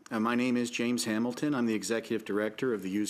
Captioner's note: speaking French